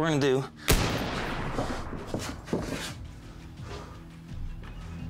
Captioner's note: gunshots blasting